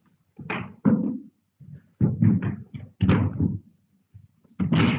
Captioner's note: objects banging